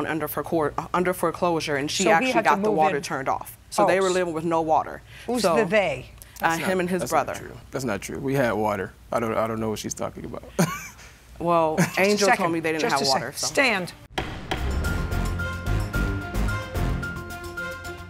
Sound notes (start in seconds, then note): 10.6 chuckles